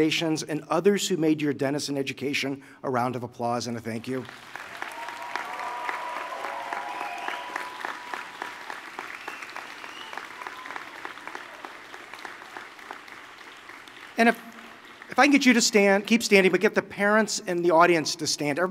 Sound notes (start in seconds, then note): 4.0 applause